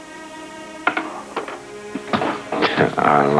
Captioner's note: clacking